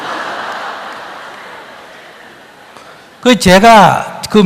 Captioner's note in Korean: 청중 웃음